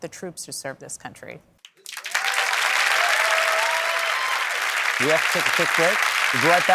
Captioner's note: cheering and applause